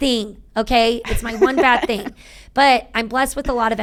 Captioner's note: laughing